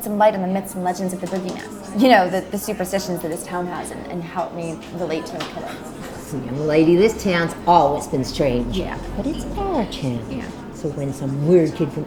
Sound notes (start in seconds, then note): 5.3 speaks faintly